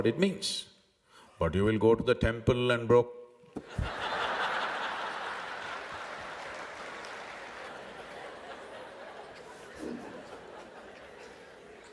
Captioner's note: laughter/Applause; 笑聲/掌聲